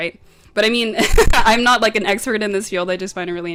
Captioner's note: laughs